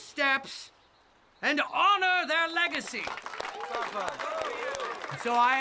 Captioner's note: crowd clapping